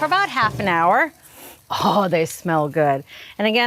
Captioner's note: sniffs